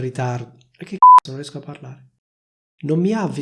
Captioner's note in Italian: beep